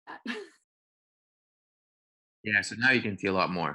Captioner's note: laughs